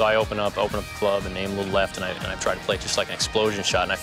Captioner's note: none